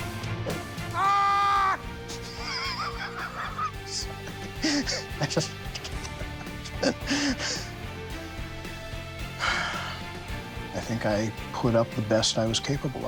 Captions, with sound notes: [yells] [laughs] I just-- [sighs] I think I put up the best I was capable of in the time